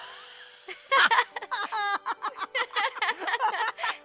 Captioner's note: both genuinely laughing